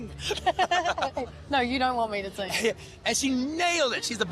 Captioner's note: laughing